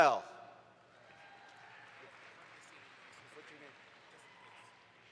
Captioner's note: audience applauds